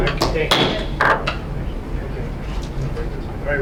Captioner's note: gavel Cracking